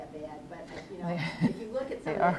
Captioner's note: laughs